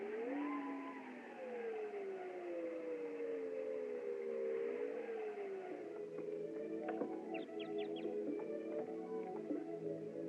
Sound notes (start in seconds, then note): 6.5 bird Twitters